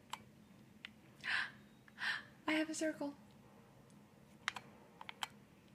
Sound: gasp

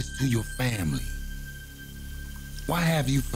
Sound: water running

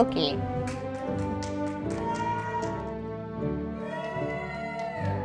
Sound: audience applauding

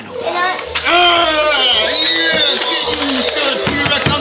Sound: groans

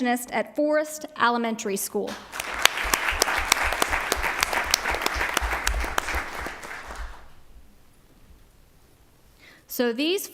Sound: applause

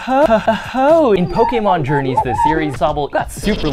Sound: window wiping

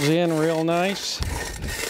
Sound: scraping sound

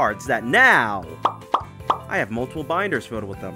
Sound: pop sound effects

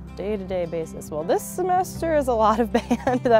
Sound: gently chuckles

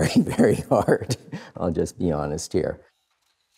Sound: laughs

